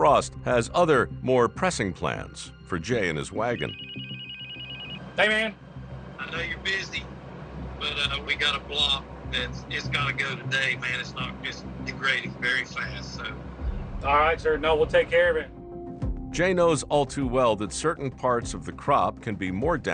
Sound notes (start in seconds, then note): 3.4 phone ringing